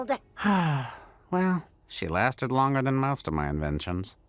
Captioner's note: sighs